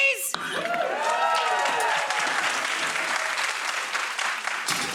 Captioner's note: audience woots and claps